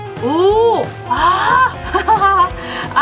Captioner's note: laughs